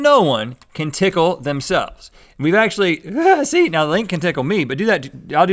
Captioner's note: giggles